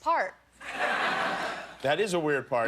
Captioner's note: laughter